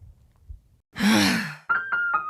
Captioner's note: woman groans; smooth music